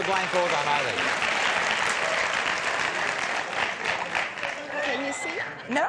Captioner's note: applause